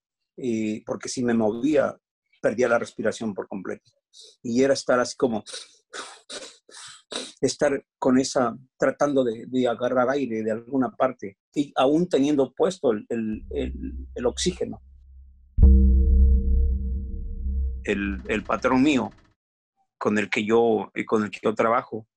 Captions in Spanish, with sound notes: porque si me movía, perdía la respiración por completo. Y era estar así como [sonidos de respiración], estar con esa, tratando de agarrar aire de alguna parte, y aún teniendo puesto el oxígeno. Mi patrón, con el que yo trabajo,